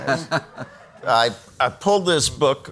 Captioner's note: laughs